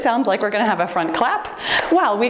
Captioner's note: timer beeps